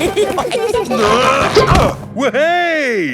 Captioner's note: all giggling; grunting